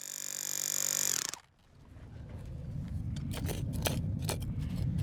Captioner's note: power tool noise